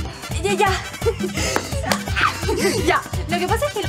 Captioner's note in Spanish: Risas